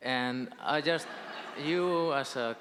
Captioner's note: audience laughing